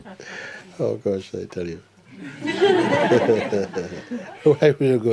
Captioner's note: laughter